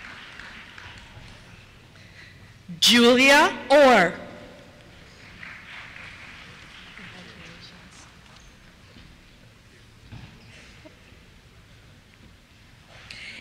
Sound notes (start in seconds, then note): 4.8 applause; 7.1 voiceover